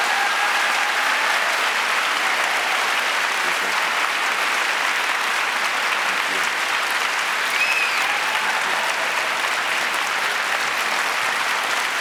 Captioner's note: applause